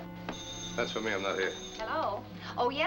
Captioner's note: phone ringing